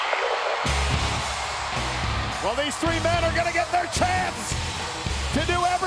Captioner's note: applause